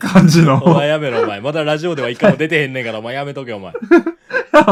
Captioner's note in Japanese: 笑い